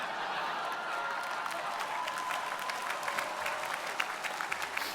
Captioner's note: audience laughing